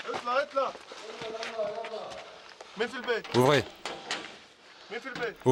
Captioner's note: Arabic spoken audio